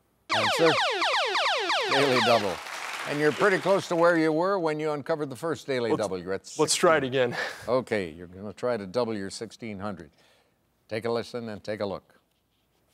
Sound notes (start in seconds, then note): 0.3 laser music; 1.9 applauding